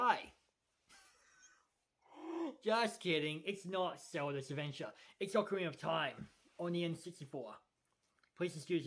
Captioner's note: giggles